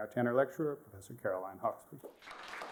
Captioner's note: applause